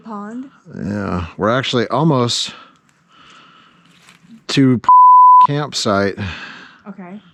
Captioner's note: beep